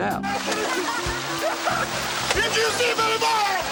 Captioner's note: crowd laughing